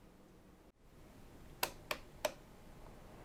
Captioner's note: selector switch clicking